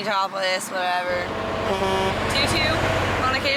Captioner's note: horn honking